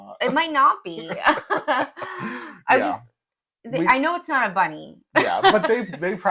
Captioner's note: laugh